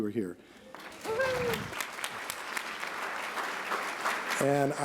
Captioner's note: applause